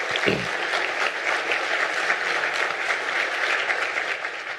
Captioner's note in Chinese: Applause; 鼓掌